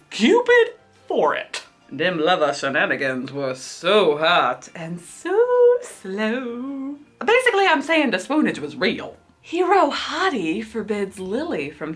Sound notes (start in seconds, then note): none